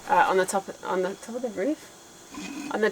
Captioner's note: chuckling